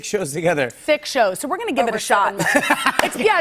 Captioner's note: laughter